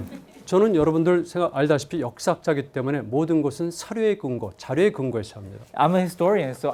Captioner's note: students laughing; speaking in Korean